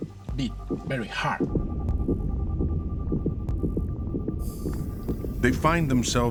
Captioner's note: heart beating rapidly